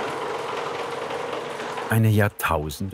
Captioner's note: rattling